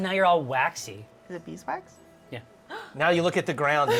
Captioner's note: gasps